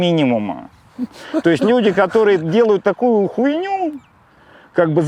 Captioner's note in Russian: смеётся